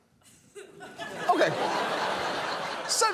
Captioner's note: studio audience laughs